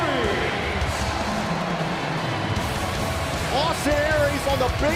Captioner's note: crowd cheering